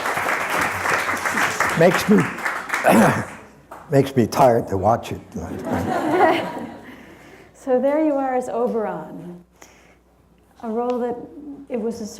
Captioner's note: clappling